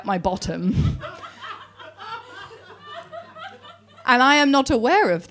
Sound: audience laughing

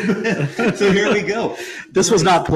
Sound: both laughing

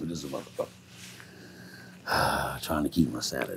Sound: breathing heavily

